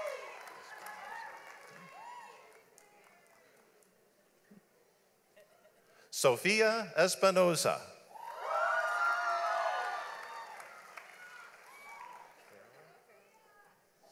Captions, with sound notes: Sophia Espinoza. (audience applauds)